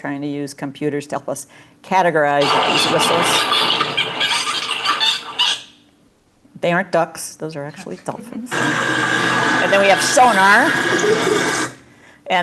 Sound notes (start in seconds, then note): 4.2 dolphin squeaking